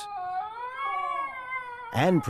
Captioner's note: howling